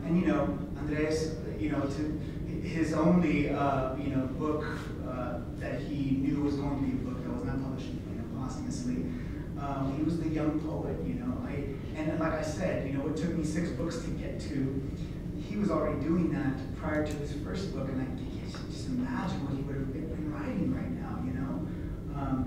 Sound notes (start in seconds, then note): none